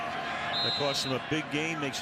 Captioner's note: whistle blowing